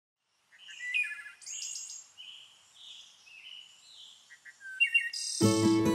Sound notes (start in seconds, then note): 0.4 birds chirping